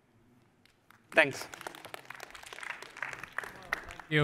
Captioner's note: applause